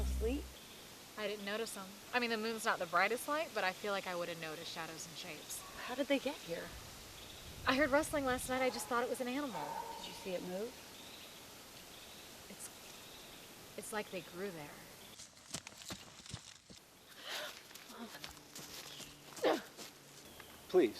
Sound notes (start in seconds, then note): 15.1 running in dirt; 17.2 gasp